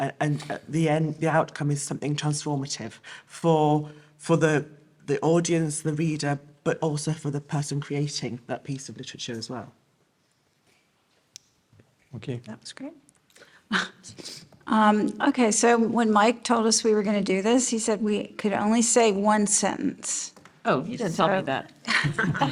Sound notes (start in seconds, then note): 14.2 laughs; 22.0 panel laughing